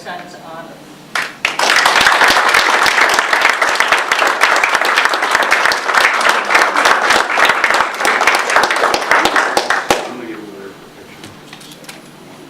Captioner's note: audience applause